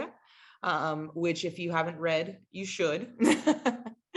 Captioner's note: laughs